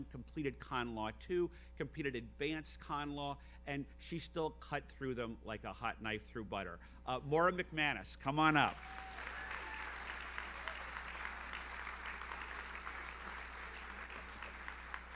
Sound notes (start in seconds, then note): 8.7 audience cheers; 11.4 audience applauds